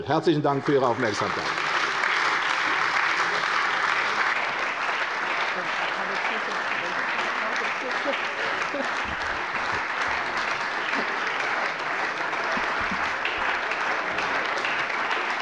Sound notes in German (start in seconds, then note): 2.1 Beifall bei der CDU und dem BÜNDNIS 90/DIE GRÜNEN